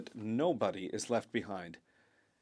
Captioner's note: speaking French